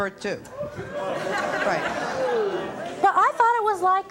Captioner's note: audience laughing